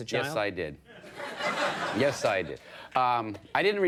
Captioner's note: audience laughing